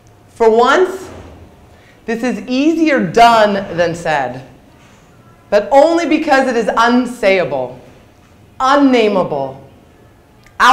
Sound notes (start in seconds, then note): none